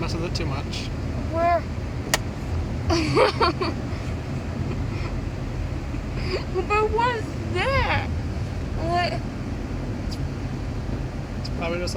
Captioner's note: laughs